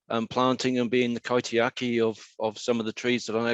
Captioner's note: speaking in foreign language